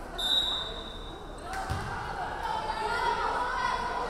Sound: referee whistling

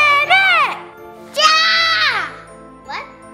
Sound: yells

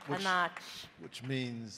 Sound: speaking in a foreign language

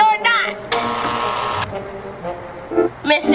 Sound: buzzing

